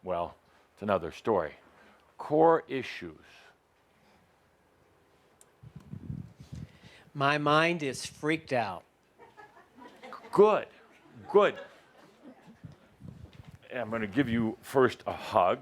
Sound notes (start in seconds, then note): 9.2 some laughter